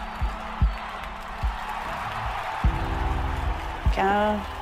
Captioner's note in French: encouragements de la foule